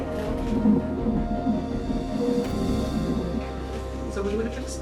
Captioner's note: heart beat sounds